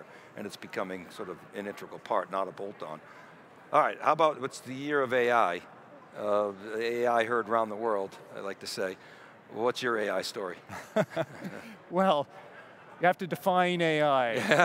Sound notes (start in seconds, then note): 10.7 laughs